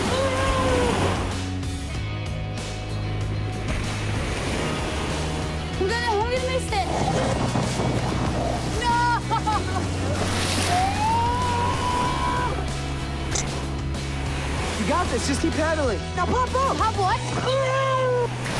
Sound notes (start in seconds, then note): 10.4 both shouting